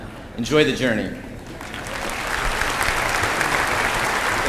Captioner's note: applause